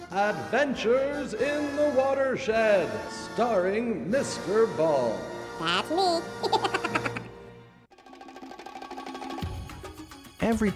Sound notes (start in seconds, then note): 5.6 laughing; 7.9 percussive electronic music